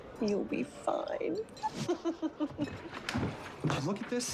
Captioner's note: laughs